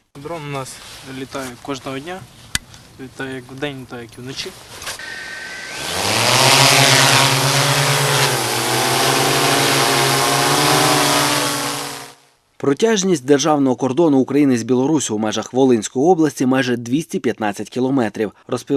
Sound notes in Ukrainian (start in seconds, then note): 5.0 дрон злітає